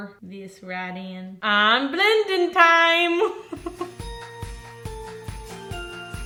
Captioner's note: giggles; festive music